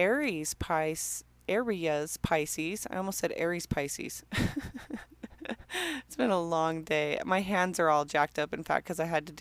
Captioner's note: laughing